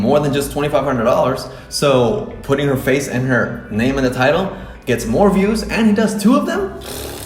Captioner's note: blows rasperry